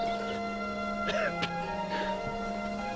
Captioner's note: coughing